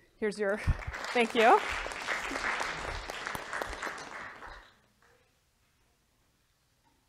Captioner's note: applause